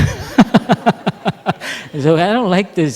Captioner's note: laughter